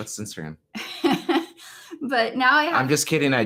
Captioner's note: laughs